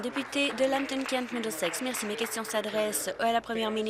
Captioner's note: applause